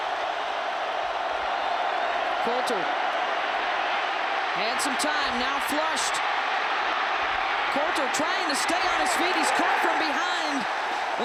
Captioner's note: applause